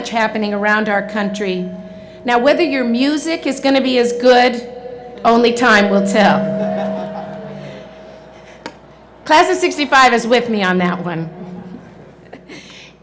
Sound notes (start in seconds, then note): none